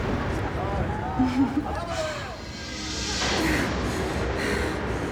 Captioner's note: Kate giggling